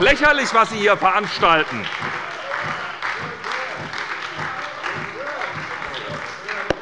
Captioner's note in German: Beifall bei der SPD